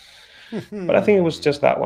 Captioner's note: laughs